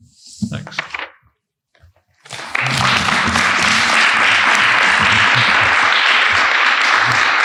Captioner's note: applauses